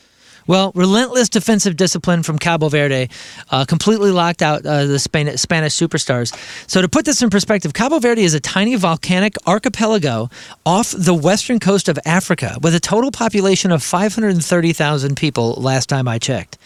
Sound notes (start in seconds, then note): none